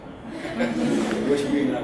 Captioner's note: audience laughs